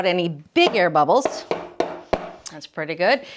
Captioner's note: pan tapping